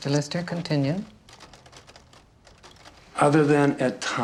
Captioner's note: stenograph clacking